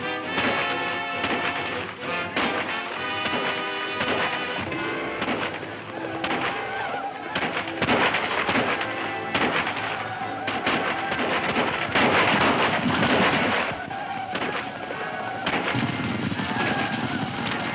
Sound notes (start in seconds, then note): 4.8 whooping; 7.6 guns firing